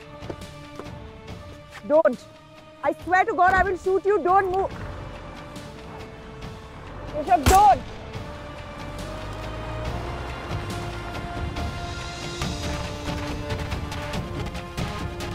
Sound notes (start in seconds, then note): 0.2 car door opens; 7.4 gunshot; 9.0 car moving